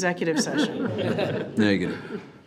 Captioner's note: all laughing